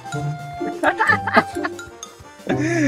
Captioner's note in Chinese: 無情嘲笑